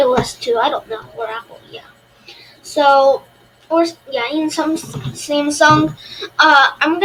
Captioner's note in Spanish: Tartamudeo distraído